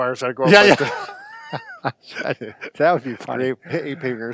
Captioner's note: laughter